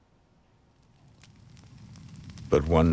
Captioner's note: crackling